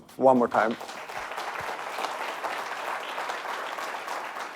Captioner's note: audience applauding